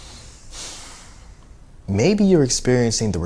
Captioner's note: he exhales